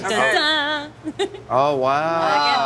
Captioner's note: laughs